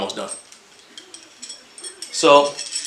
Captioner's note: tool clatters